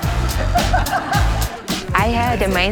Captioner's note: laughing